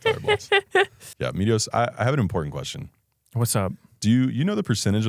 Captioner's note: laughs